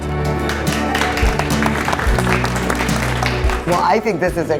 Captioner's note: audience applaud